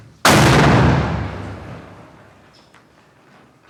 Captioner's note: explosion bangs